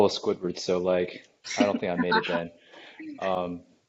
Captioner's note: laughter in background